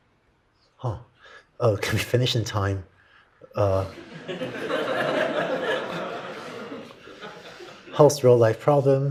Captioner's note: laughter